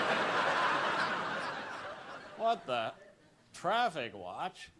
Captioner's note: laughter